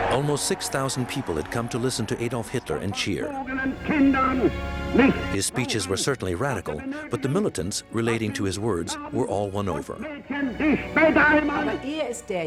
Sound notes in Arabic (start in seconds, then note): 3.8 الصوت المنطوق باللغة الألمانية; 10.5 الصوت المنطوق باللغة الألمانية